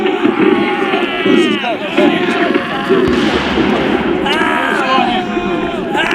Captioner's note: recruits screaming